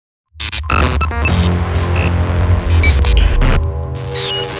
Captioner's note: electrical humming